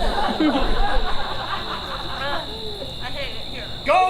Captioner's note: audience laughs